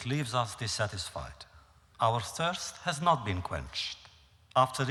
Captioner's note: none